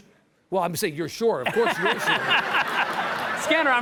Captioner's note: audience laughs